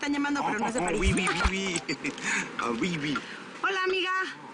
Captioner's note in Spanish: Ríe